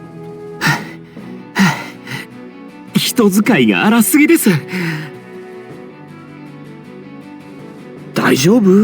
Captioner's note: panting